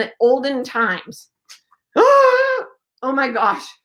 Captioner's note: gasping